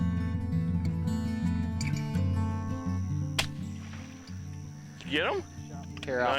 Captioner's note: gunshot